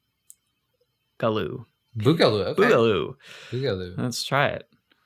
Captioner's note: laughs